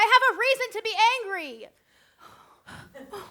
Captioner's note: heavy breath